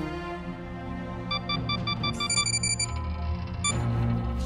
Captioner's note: alert warnings sound